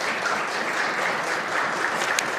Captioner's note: applause